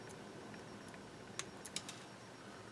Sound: clipping sound

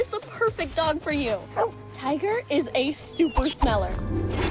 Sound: barks

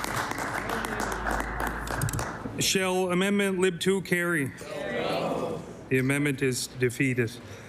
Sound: applause

